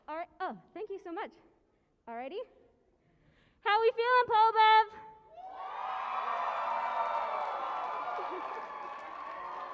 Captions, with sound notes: All righ-- oh, thank you so much. All righty. How we feeling, PoBev? [CHEERING AND APPLAUSE]